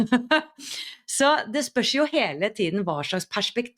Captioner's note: laughter